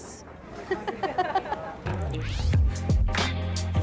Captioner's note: patron chattering continues; laughs; mid-tempo instrumental music